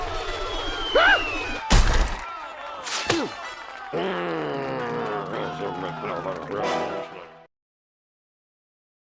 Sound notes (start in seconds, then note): 3.8 grunts; 3.9 growls